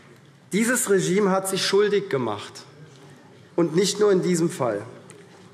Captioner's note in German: none